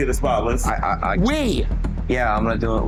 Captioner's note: stuttering